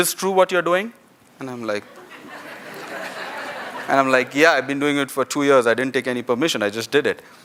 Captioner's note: laughter